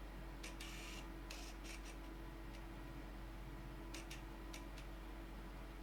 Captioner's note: various camera focusing sounds